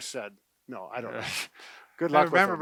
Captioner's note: laughs